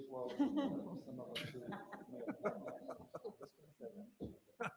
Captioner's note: laughs